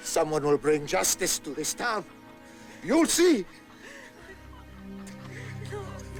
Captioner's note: women crying